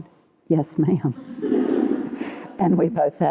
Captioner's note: laughter